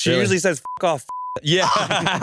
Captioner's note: beep; laugh